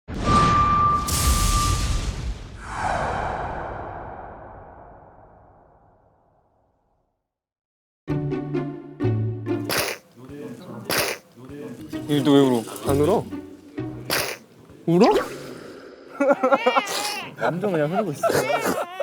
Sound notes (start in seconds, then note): 10.8 sniff; 16.1 sob